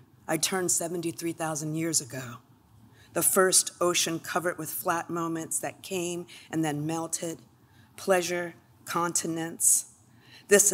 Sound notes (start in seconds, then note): none